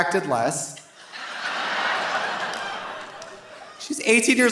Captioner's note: audience laughing